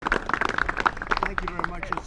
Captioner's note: applause